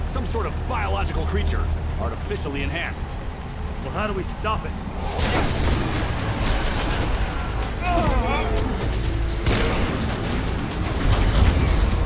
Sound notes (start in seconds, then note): 5.6 glass shattering; 6.8 dramatic music; 7.6 man groaning; 9.4 lasers blasting